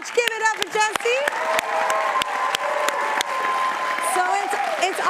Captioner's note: audience cheering and applauding